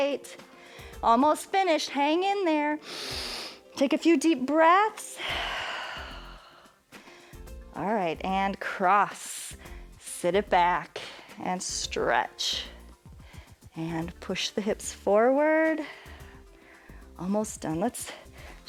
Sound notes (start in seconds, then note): 2.8 inhales; 6.6 exhales